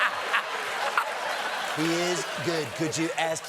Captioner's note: laughter